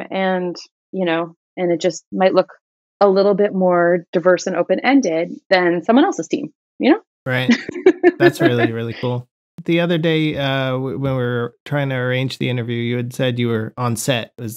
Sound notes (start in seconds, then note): 7.4 laughter